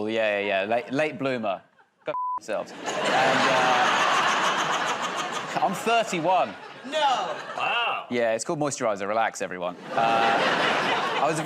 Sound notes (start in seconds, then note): 2.6 laughter